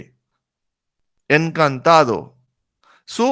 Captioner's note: Spanish